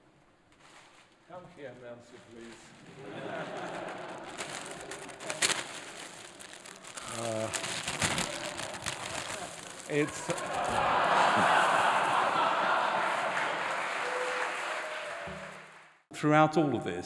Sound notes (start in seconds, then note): 2.4 audience laughs cheers